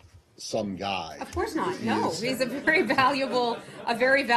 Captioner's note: laughter